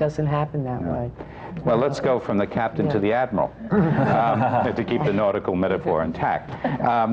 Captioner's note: laughter